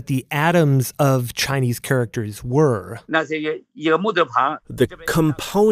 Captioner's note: speaking Mandarin